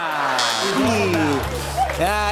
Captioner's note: buzzer, sad notes play; laughter